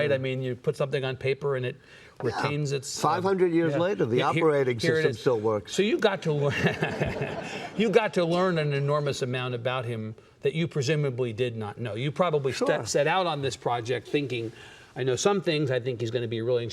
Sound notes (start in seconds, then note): 6.5 chuckles